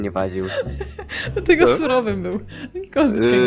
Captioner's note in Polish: śmiech